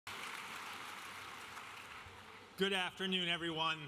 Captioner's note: audience applauding